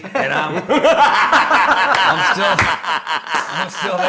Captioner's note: laughing